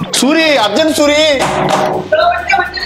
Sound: knocks

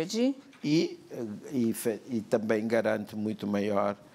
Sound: speaking portuguese

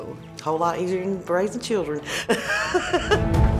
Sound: laughs; upbeat tone

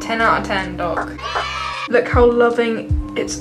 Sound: children cheering

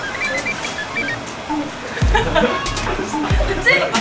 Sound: laughing

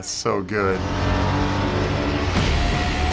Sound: motor revving; rock music resumes

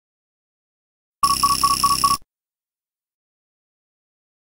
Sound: sound of scanner

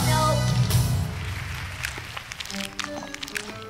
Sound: applause

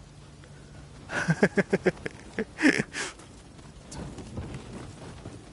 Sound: 笑い

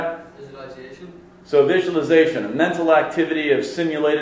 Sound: voiceover

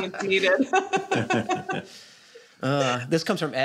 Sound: laughs

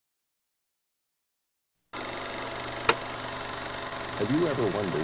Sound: projector clicking

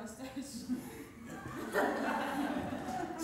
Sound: audience laughter

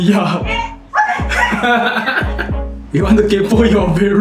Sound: laughs

